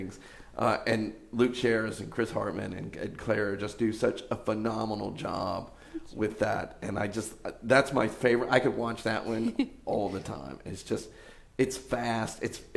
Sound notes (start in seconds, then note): 9.2 laughs